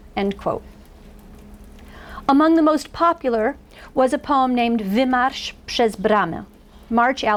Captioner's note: foreign language